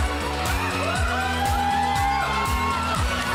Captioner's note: whooping; applause; music fading out